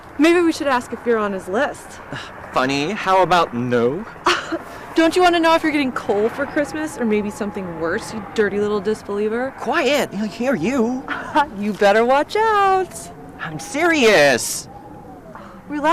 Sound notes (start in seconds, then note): 4.2 Angelica scoffs; 11.0 Angelica laughs